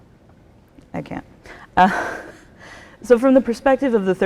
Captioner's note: laughs